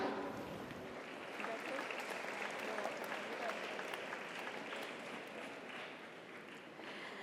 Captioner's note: audience applauds; audience cheers